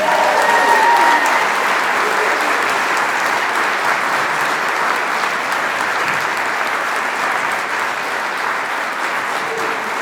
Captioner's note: applause